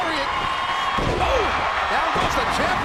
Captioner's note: bodies thud